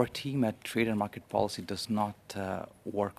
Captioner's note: speaking French